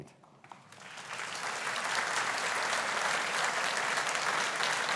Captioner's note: audience applauding